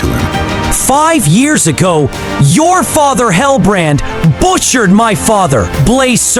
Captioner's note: voice low, hateful